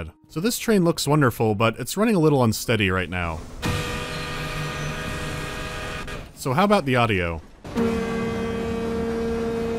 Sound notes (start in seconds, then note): 3.6 stuttering horn; 7.7 several distinctly sounding horns